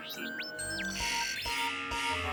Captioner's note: alarm buzzes